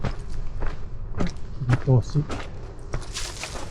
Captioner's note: cutting